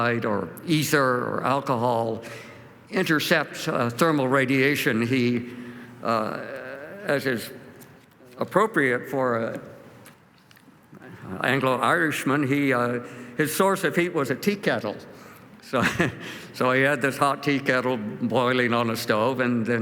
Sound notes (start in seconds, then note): 15.7 chuckles